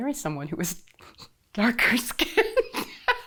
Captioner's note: laughing